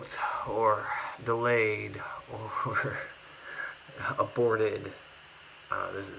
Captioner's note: laughs